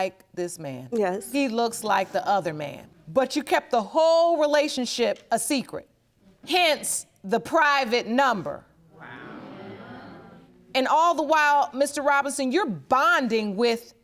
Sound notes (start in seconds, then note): 5.5 audience gasping